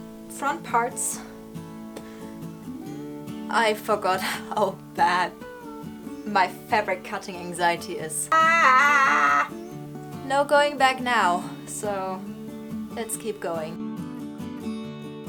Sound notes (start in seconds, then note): 8.3 gremlin screaming; 13.5 acustic guitar music